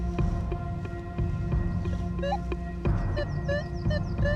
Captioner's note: metal detector warbling